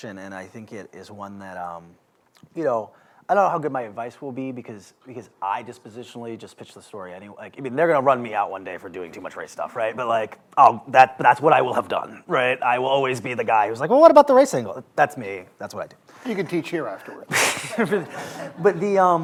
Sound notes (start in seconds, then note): 17.2 laughter